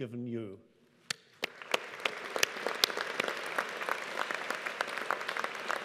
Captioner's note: audience applauding